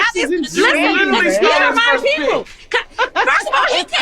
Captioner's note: group arguing